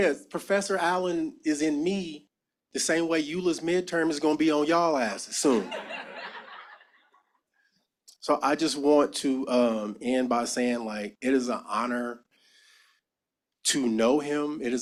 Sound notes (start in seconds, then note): 5.4 laughter